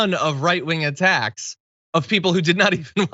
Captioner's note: laugh